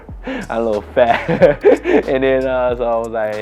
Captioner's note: laughs